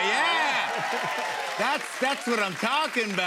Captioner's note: cheers and applause